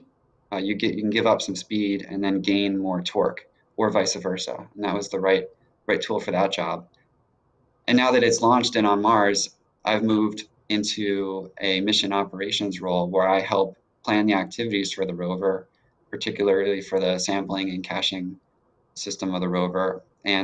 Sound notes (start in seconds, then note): none